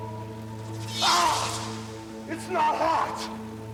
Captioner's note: Hogan screams